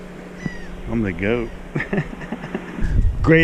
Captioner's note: laughs